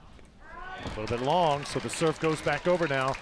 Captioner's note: crowd applauds